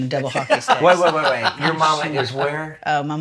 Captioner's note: laughs